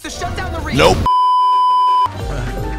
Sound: beeeeeep

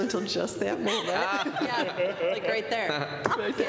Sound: laughter

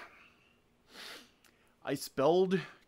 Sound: sniff

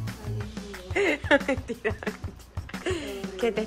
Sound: laughs

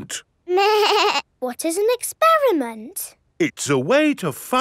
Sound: snorts; bleating

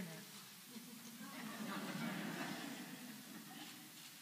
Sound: laugh

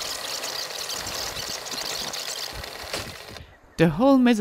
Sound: tape rewinding

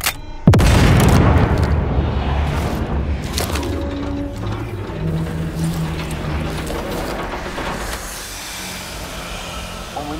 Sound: gunshots

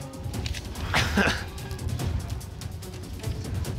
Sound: chuckles nervously

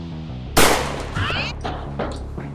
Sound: bang!

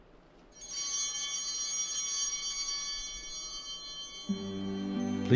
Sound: bell ringing

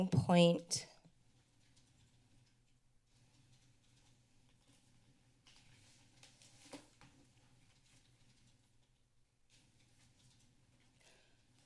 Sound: silence

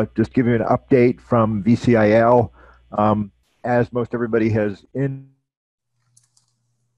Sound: audio disruption

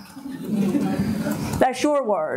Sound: audience laughing

